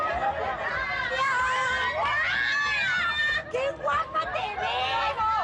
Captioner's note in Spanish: Gritos y exclamaciones